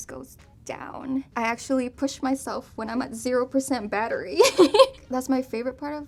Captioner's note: laughs